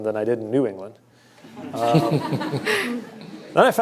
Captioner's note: laughter